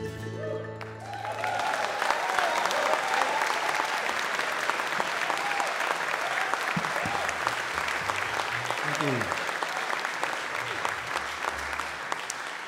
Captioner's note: audience Applause